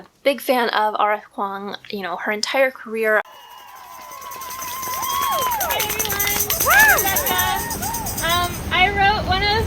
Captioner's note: applause